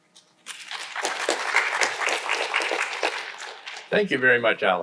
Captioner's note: audience applauding